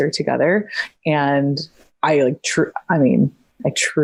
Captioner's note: stutters